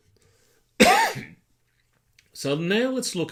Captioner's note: coughing